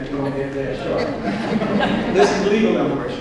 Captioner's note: audience laughs